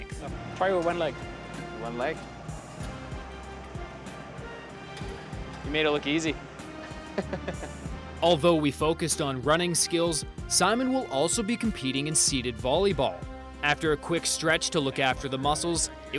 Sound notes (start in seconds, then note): 6.8 chuckles